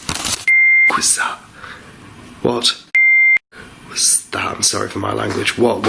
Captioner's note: beep